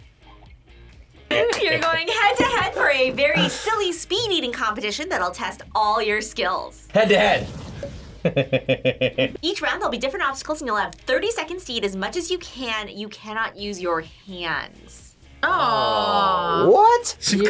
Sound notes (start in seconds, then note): 8.2 laughs